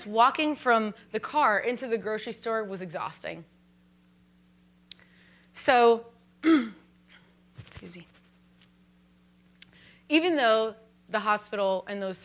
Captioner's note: throat clear